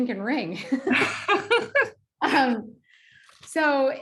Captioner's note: laughing